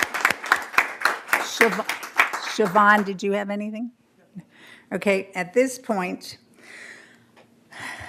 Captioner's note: applause